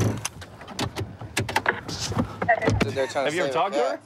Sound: car door opening

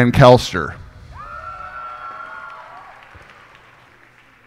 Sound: cheers and applause

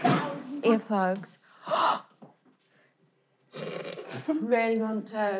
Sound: gasping

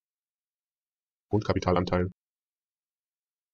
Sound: fast Pronunciation

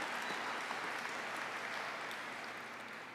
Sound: applause

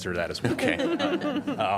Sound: laughter

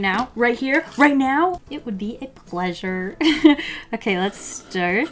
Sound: laughs

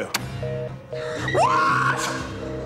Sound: phone beeps

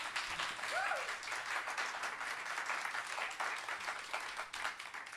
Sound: audience clapping

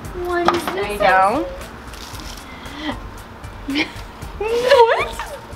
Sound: giggles

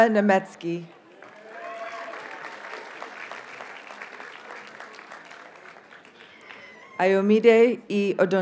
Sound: audience cheers and applauds

